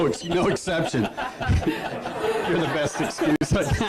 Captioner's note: laughs